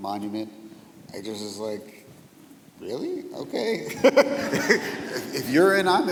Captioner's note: laughing